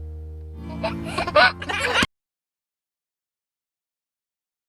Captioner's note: baby giggles